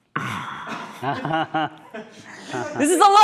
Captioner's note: laughing